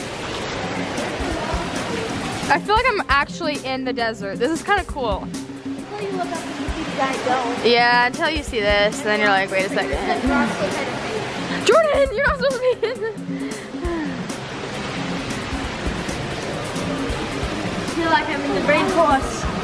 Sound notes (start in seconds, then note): 13.2 sighs